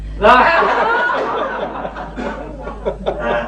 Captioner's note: laughter